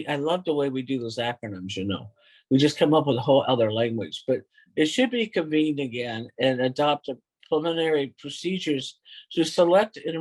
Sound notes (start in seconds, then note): none